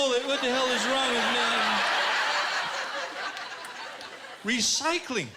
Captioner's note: laughter